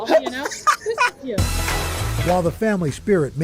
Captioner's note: laughter